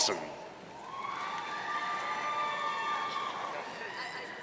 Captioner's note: audience cheering